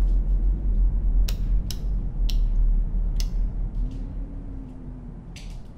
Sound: light switch clicking

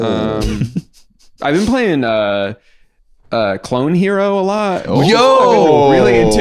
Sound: exclaiming excitedly

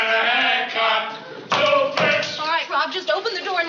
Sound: singing; knocking

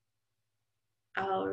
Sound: silence

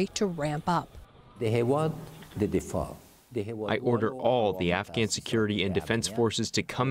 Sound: through translator

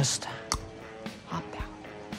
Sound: mouth pop

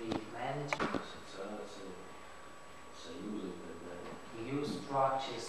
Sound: speaking russian

